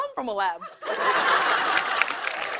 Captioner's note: applause